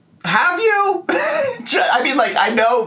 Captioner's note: laughing